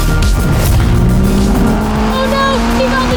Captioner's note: engines roaring